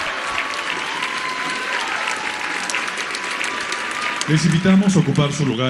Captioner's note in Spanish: aplausos